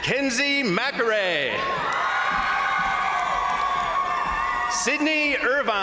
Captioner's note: crowd cheering; crowd applauding